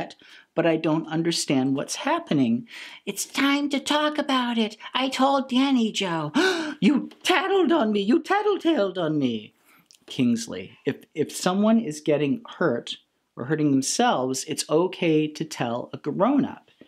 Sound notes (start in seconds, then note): 6.3 gasp